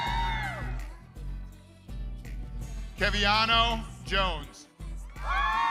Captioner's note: crowd continues cheering